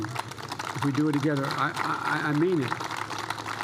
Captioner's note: applause